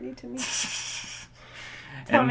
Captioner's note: laughing